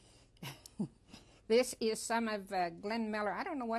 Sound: laughs

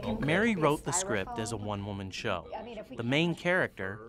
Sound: voiceover

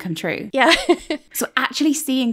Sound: laughing

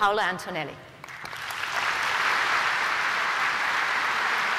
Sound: applause

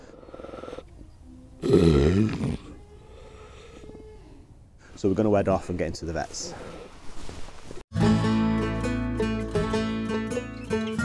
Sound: laboured breathing

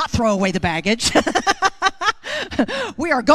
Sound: laughs

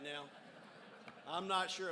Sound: crowd laughs

